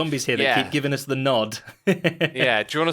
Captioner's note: chuckles